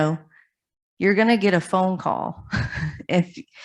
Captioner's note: chuckles